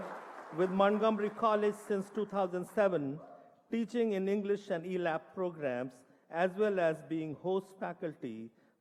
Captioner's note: applause